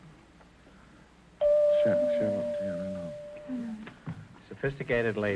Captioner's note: chime rings